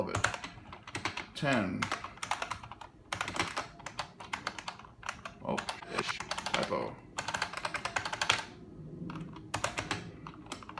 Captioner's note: typing noises